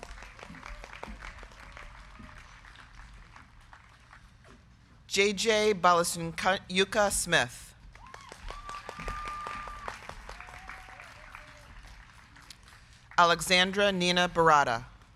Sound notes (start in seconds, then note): 0.0 crowd clapping; 7.9 crowd clapping; 8.0 crowd cheering